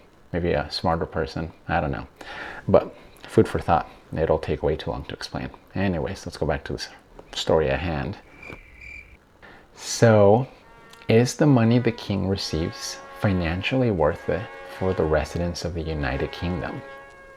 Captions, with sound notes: Maybe a smarter person? I don't know. But food for thought. It'll take way too long to explain. Anyways, let's go back to the story at hand. *Crickets Chirping* So is the money the King receives financially worth it for the residents of the United Kingdom?